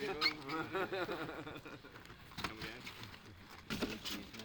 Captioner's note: crew laughing